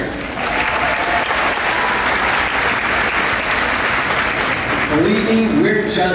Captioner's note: clapping